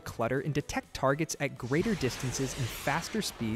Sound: missile whooshing

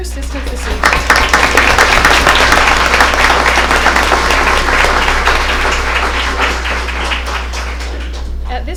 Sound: applause

